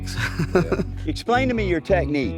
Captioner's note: laughs